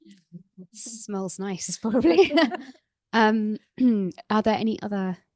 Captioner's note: laughs